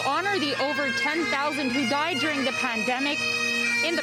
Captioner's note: speaking french